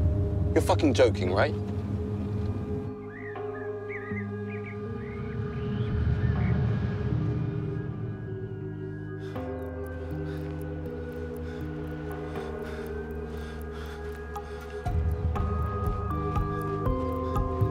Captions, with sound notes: You're fucking joking, right? (BIRDSONG) (LABOURED BREATHING)